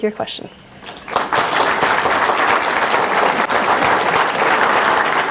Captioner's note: audience applauding